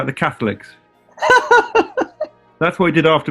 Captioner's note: giggling